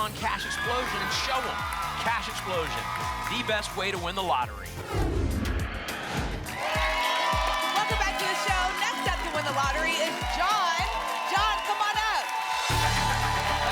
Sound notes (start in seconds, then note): 4.8 whoosh; 6.5 applause and cheering